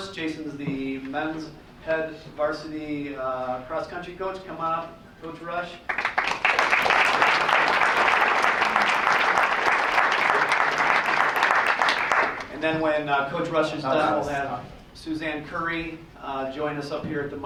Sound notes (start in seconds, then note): 5.8 applause